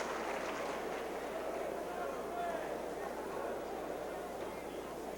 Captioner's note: crowd chattering